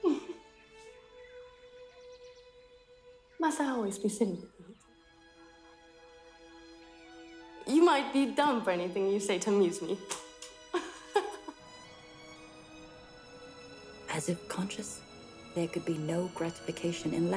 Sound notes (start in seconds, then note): 0.0 giggling; 10.7 laughs